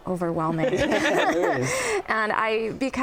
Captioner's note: laughter